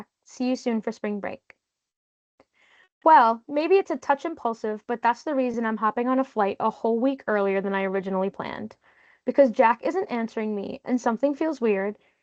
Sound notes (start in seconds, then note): none